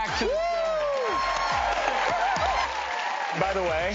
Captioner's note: applause